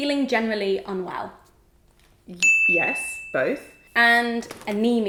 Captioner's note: bell dings